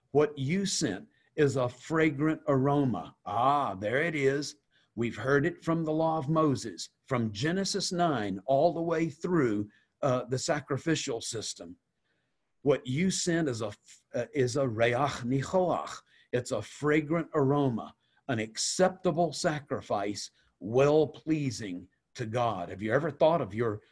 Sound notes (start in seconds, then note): 15.1 Hebrew